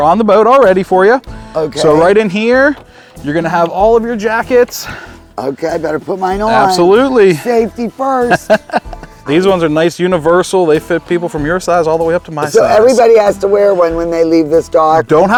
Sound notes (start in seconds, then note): 8.1 chuckling